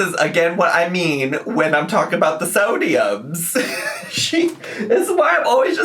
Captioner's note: laughs